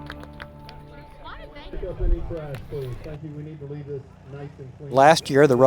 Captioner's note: background talking